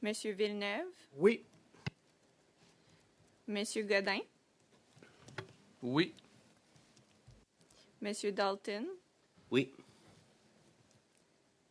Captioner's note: speaking French